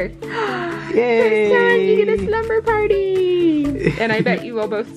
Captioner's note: gasps